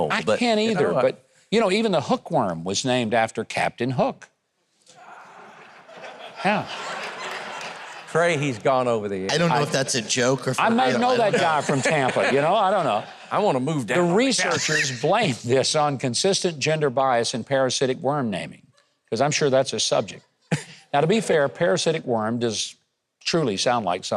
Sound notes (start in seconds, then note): 5.0 audience laughs